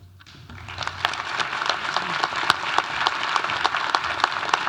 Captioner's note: audience applauding